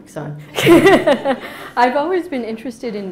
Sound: laughing

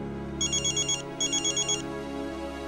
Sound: mobile phone ringing

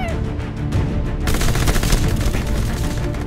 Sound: gunfire sounds

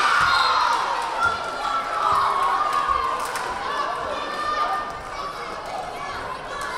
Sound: crowd cheering; whistle blaring

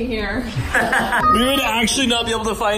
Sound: laughs

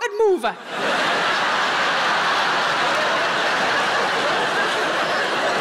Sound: audience laughing

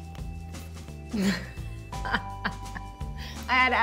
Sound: laughs

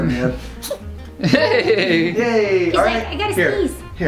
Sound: sneezes; laughs

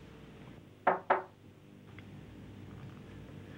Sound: knocking

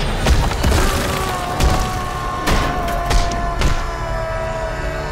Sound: screaming

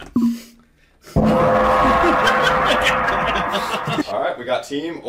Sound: gong

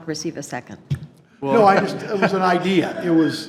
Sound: trustees chuckling

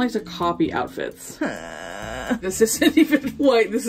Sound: distressed whining

